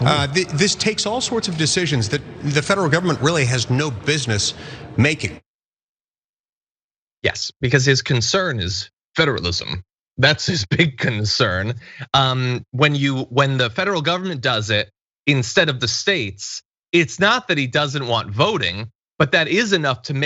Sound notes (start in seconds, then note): 11.0 laugh